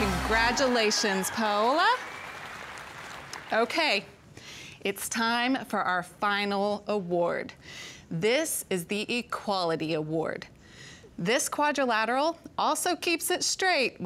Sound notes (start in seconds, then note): 2.3 crowd cheering